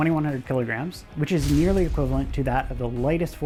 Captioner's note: metal thuds